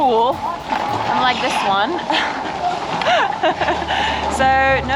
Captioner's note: laughs